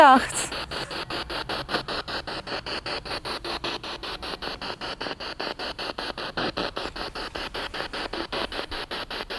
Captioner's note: Sound of the Spirit Box and bells ringing in the background